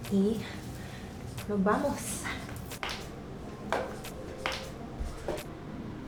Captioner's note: speaking a foreign language